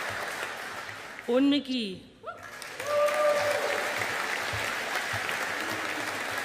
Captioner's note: audience applauding